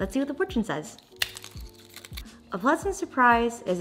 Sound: fortune cookie cracking

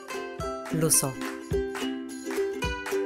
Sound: female voice

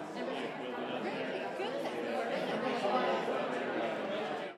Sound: crowd noise

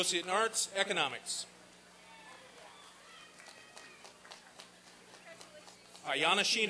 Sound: applause and cheering

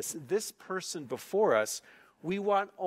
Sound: none

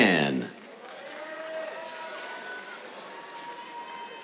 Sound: cheers, applause

